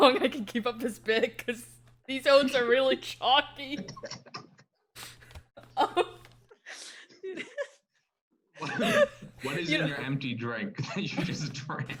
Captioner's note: everyone laughs